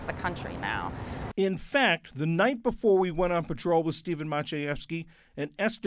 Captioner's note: voice-over